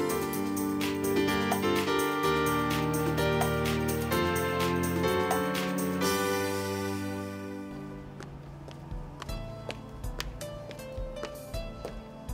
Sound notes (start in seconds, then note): 8.1 climbing up steps